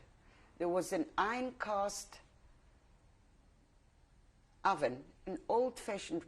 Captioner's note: pauses for 3 seconds